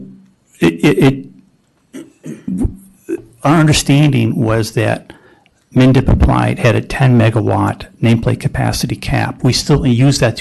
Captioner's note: clears throat